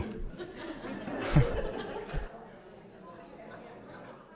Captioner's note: audience laughing